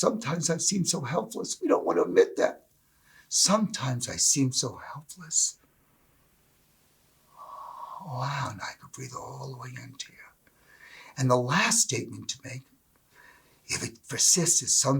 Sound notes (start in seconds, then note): 5.3 breath